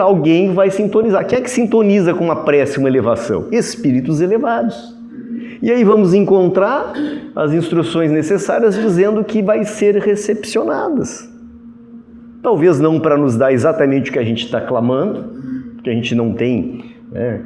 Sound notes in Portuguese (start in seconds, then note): 6.8 limpando a garganta